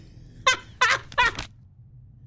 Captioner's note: laughs